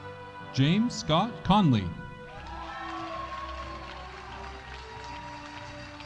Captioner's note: audience applauding